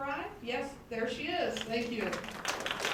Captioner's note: applause